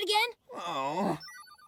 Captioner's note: moans